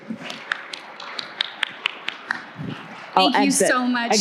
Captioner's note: audience clapping